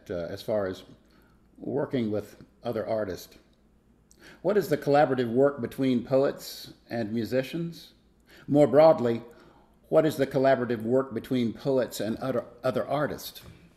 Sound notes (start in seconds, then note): none